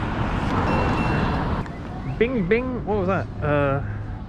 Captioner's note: GARMIN chimes